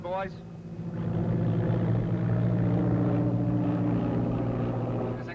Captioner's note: propellers buzzing